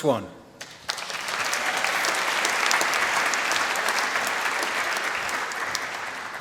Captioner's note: applause